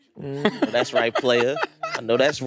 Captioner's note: Hasan laughs